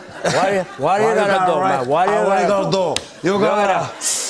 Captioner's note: sniffles